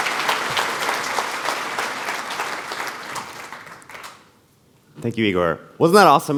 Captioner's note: applause